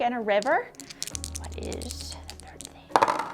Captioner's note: whispers; dice clunking